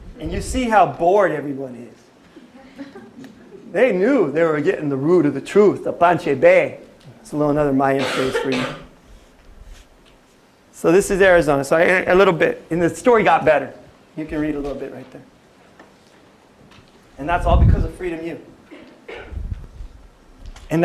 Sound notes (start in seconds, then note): 5.9 non-english speech